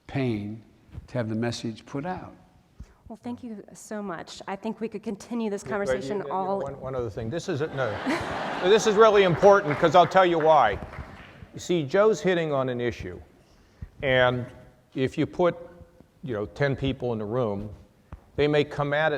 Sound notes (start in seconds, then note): 7.6 laughter